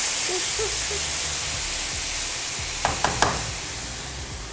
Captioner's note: sizzling pan